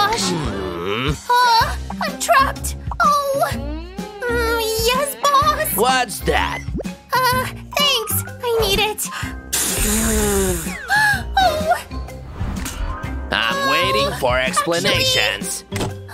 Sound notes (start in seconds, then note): 9.4 blows her nose